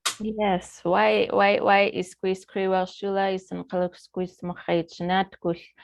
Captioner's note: speaking in foreign language